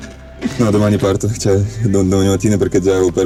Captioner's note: speaking Italian